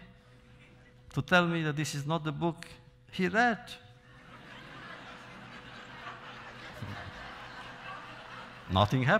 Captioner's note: laughter